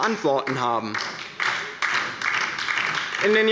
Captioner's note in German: Beifall bei der LINKEN